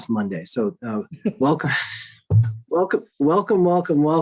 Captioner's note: laughs